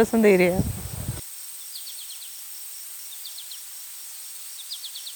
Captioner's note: birds chirping